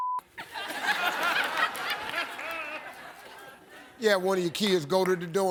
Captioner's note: audience laughs